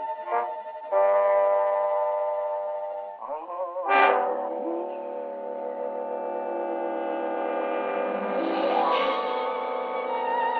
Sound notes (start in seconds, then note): 3.3 howling continues